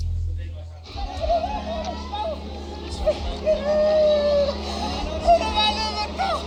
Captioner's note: distressed crowd